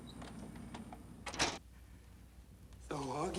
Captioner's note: door hinge creaking; door thudding